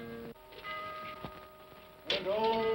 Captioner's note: clock chimes